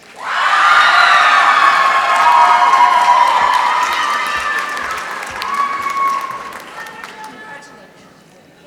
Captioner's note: applause